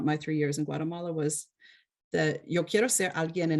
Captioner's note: speaks foreign